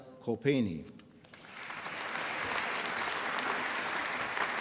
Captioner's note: applause